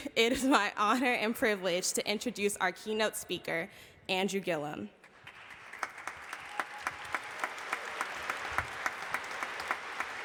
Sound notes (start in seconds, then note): 5.1 audience applauding